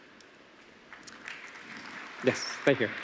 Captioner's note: applause